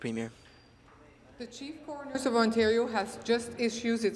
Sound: speaking in french

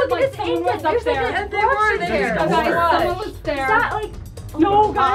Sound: all talking excitedly

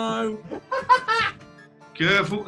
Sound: laughing

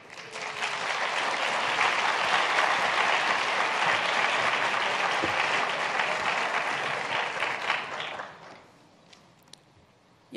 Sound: applause

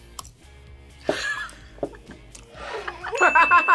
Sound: laughs

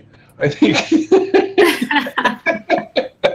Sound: all laugh

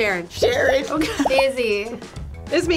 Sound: laughs

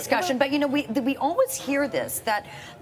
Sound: none

